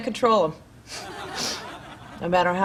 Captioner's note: audience laughing